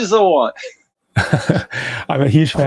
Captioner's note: laughs